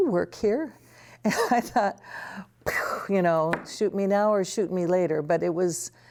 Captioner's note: laughter